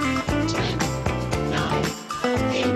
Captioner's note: robotic Voice